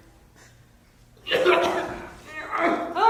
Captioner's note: Wriker coughs